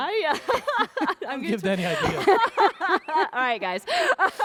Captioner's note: laughter